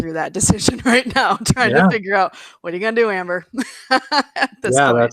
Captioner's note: laughs